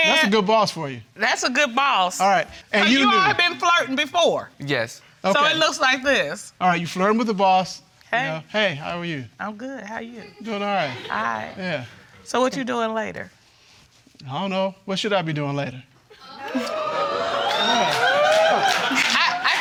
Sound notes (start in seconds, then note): 16.2 audience exclaiming